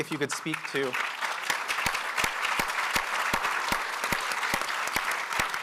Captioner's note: audience applauding